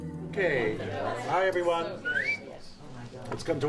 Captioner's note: whistles